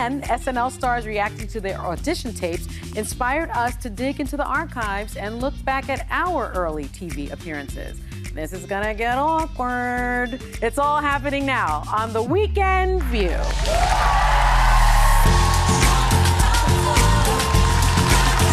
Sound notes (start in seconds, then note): 13.4 audience cheering; 15.8 upbeat music